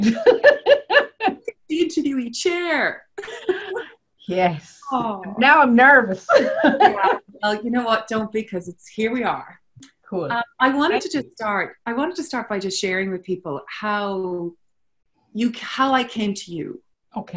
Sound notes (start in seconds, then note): 0.0 laughs; 6.2 laughs